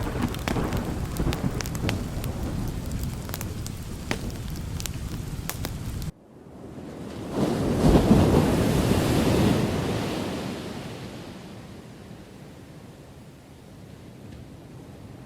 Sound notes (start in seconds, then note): 7.2 thunder crashing; 9.2 rain falling